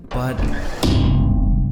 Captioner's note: bonk